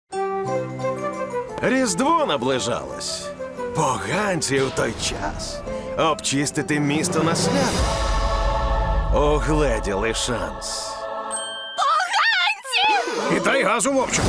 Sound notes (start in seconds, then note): 0.0 holiday music playing; 6.3 choir sings; 11.3 chime dings